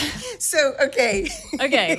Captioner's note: laughs; chuckles